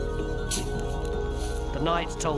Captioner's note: coins jingling